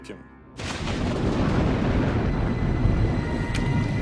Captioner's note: thunder rumbling